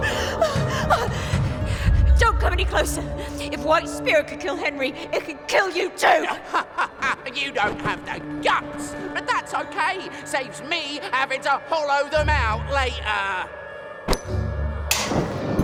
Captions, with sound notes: Don't come any closer! If white spirit could kill Henry, it can kill you too! [Fungo laughs] You don't have the guts! But that's okay! Saves me having to hollow them out later!